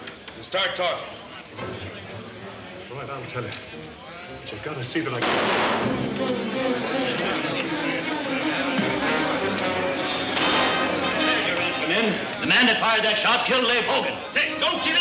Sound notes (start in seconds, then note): 3.7 gun fires; 4.7 bar patrons chattering; 5.2 dramatic orchestral music; 8.7 gun fires